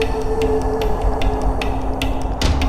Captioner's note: wind blows